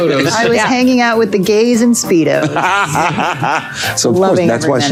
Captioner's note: Colman laughing